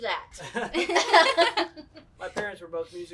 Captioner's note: all laugh